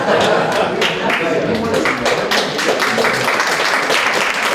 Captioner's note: applause